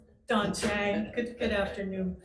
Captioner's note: members chuckling